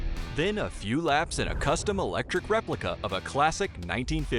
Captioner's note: voiceover